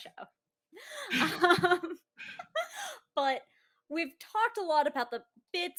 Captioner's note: laughs